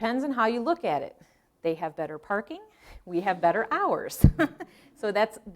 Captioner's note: laughing